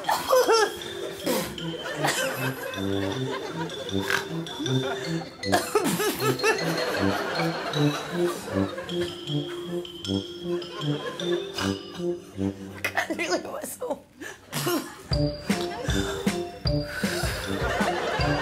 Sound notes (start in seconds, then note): 1.2 blowing a raspberry; 1.9 laughs; 3.8 snorts, blows raspberry